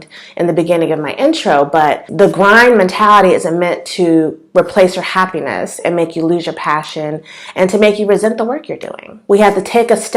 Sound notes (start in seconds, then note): none